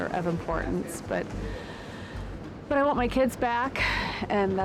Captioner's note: sighs